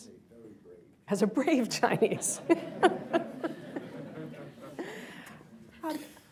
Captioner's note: laughter